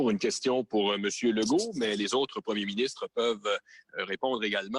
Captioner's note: speaks French